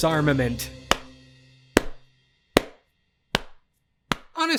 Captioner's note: slow clap